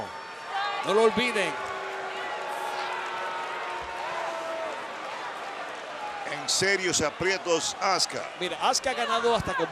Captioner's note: applause